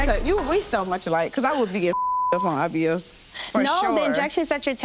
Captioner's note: beep